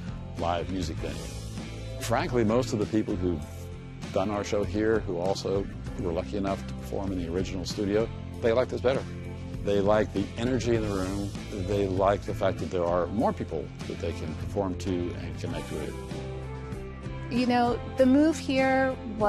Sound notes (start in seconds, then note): none